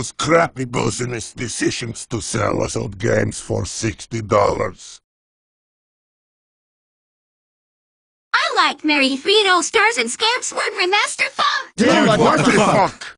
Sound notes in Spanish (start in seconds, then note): 5.7 silencio